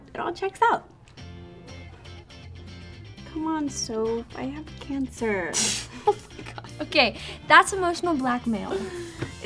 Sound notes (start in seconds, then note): 1.3 upbeat music; 5.7 Sophie laughs